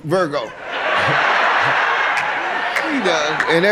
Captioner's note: audience laughs